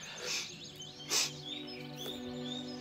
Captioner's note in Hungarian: sniffs